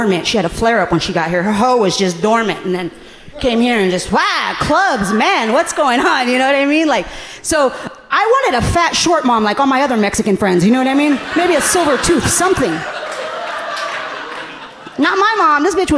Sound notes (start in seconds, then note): 7.1 laughing; 13.3 audience laughing gently